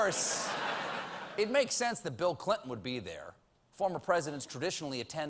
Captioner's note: laughter